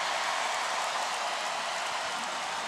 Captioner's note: cheering and applause